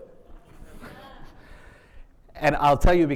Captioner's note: attendees laughing